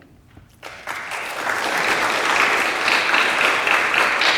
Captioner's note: audience applauding